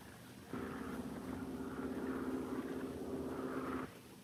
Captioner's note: Phantom buzzing